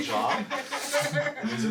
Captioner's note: all laughing